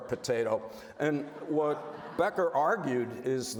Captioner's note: audience laughs